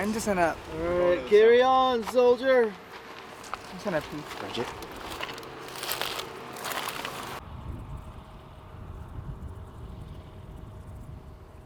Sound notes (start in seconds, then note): 5.9 loud clatters